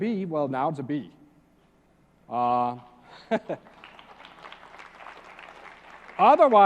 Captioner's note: applause; laugh